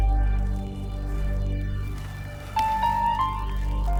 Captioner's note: rustling